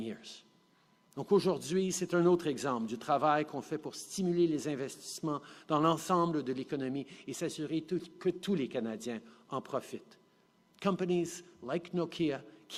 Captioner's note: speaking French